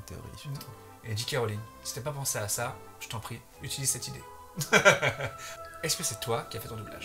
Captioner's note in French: rires